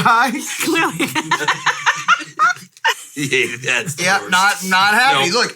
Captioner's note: all laughing